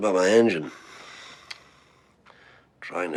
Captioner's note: sighing